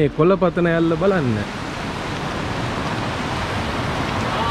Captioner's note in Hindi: पानी में बहने वाली आवाज